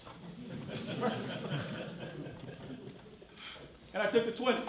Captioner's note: laughing